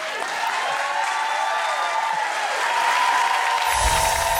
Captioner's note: audience cheering and clapping; uplifting music